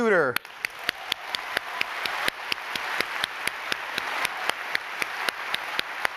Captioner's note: applauding